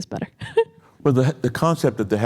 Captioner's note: chuckles